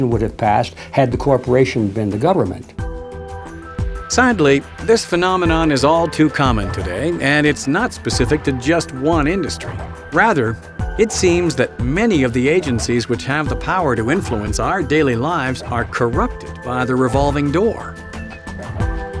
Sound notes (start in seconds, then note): 4.6 voiceover